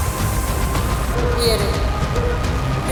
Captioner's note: system Voice & Alarm